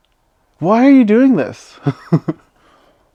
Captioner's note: laughs